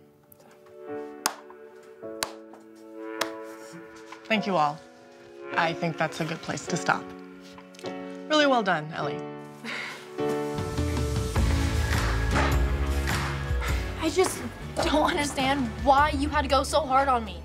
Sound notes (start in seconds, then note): 1.0 claps; 10.4 upbeat pop music